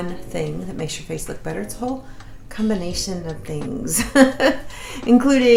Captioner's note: laughs